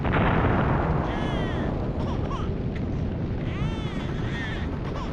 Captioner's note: baby crying